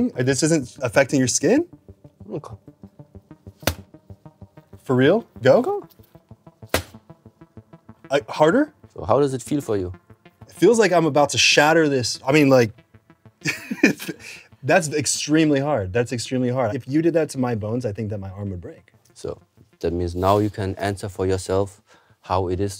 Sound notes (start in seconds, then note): 3.4 thud; 6.7 louder thud; 13.5 giggles